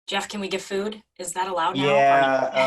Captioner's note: laughs